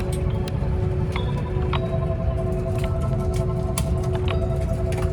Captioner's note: pit-a-pat